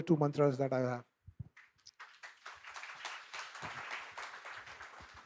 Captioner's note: applause